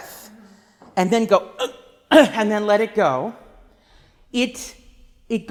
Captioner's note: gasping